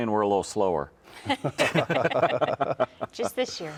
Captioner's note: everyone laughing